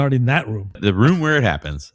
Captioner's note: uh